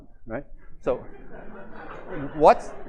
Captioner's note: laughter